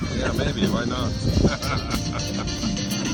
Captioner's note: laughter